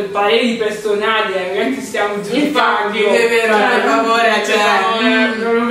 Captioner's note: laughing